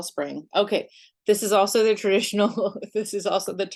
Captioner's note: chuckles